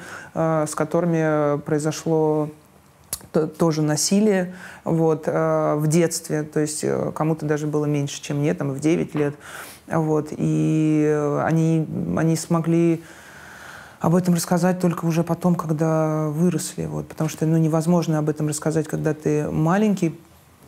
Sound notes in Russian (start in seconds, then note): none